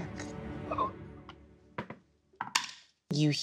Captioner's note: Omar gasps